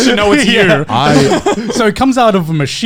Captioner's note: laughing